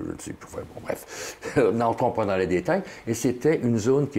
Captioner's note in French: Rire